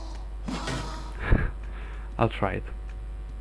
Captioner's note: chuckles